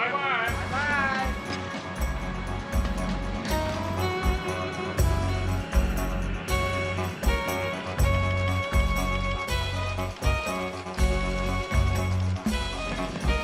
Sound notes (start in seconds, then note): 4.0 gentle music; 8.6 printing press rattling